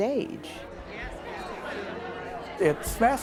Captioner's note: indistinct chatter